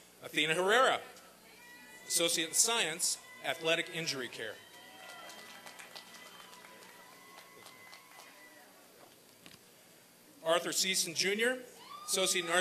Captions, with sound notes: ATHENA HARERA, ASSOCIATE IN SCIENCE, ATHLETIC INJURY CARE. [ APPLAUSE AND CHEERING ] ARTHUR SEESON JUNIOR, ASSOCIATE IN ARTS